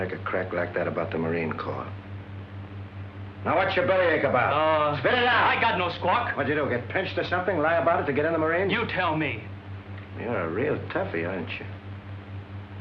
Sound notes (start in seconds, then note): none